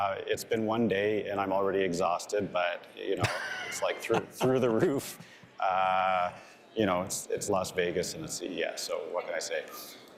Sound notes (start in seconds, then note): 3.2 chuckles